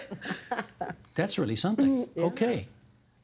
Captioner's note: laughter